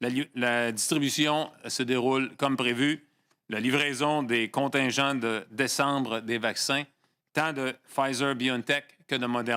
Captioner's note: speaking French